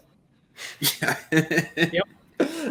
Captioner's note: chuckles